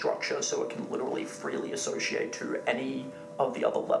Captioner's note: none